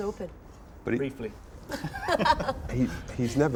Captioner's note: laughs